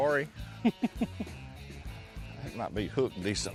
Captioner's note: laughs